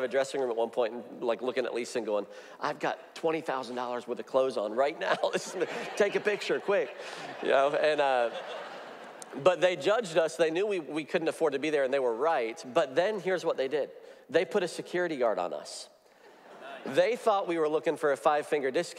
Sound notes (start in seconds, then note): 7.0 audience laughs